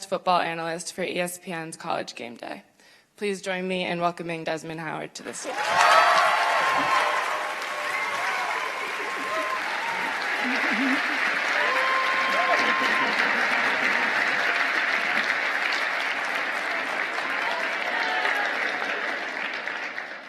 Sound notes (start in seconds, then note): 8.3 cheers and applause